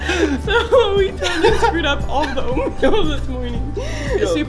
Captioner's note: laughing